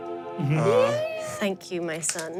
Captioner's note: spiritual music; cheers